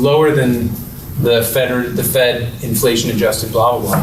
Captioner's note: mutters